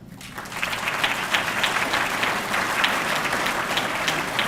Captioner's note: audience clapping